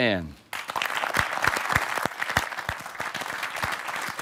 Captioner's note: applause